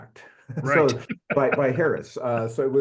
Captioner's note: laugh